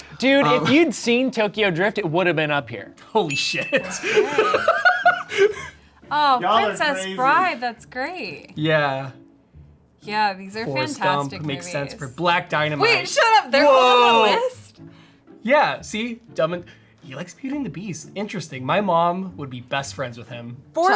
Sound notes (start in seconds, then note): 3.8 laughs